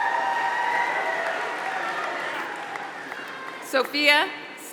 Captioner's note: applause